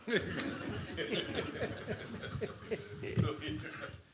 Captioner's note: laughter